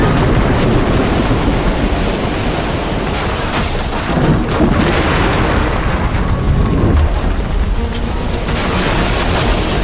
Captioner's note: total destruction roaring; devastation roaring